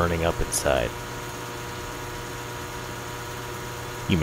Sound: transformer humming

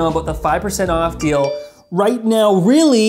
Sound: notification bell dings

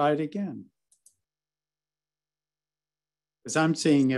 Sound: mouse clicks

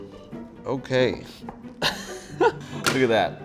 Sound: laughing

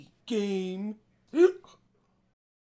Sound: hiccups

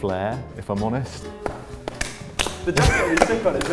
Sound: scattered applause

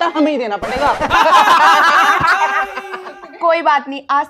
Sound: laughing

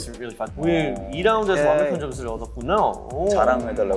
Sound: speaking Korean

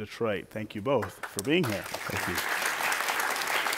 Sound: applause

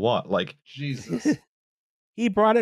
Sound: laughs

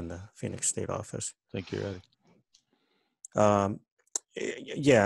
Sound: on phone

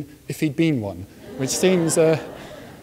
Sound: audience laughs

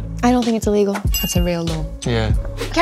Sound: dings

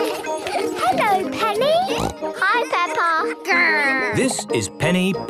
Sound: laughter; snorting

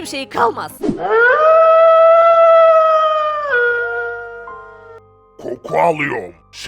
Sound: wolf howling

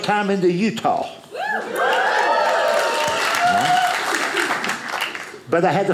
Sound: audience cheers

